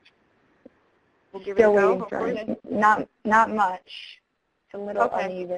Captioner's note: voiceover